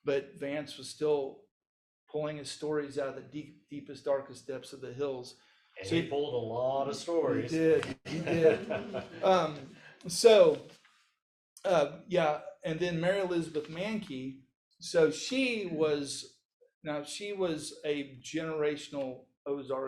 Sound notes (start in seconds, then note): 8.0 laughs; 8.0 audience laughs